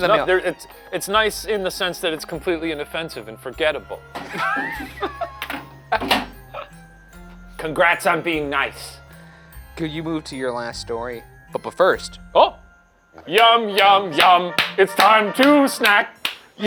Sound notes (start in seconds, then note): 4.2 laughs; 5.9 mailbox slamming